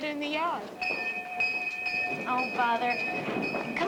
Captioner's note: bell ringing